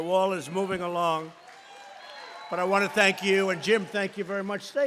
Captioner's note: applause